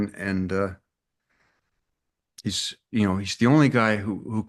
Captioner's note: none